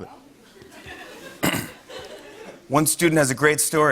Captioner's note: clears throat; light laughter